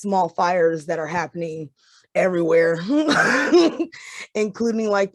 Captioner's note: laughs